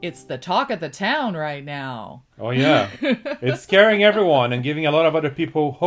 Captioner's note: laughs